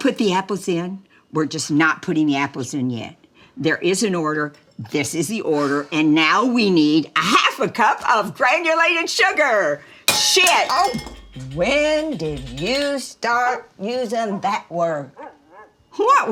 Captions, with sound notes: - We're gonna put the apples in; we're just not putting the apples in yet. There is an order. This is the order. And now, we need a half a cup of granulated sugar. (spoon clatters) Shit! - Oh! When did you start using that word?